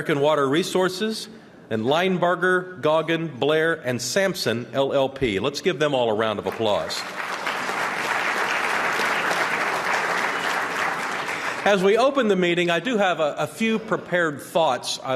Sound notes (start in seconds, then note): 9.0 applause